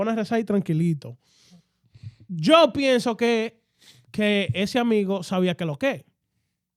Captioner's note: speaking In Foreign Language